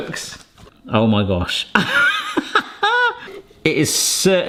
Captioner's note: laughs